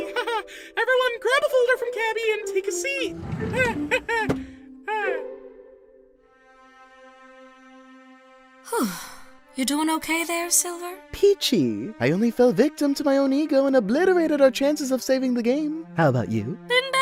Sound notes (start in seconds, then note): 5.8 sigh